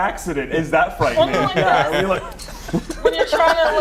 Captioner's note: laughter